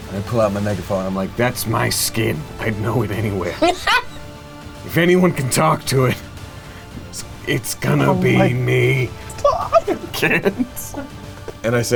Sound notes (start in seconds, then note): 3.6 laughs loudly; 7.8 giggling; 10.4 laughing